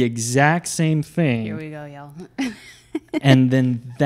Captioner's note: giggles